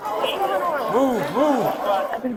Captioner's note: crowd yelling